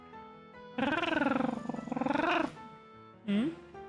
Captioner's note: trills